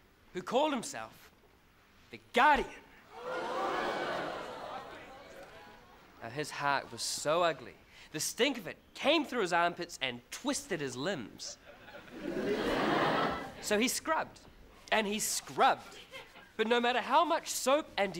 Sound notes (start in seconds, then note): 2.9 crowd gasps; 11.6 crowd laughs